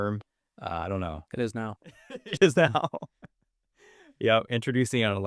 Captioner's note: laughs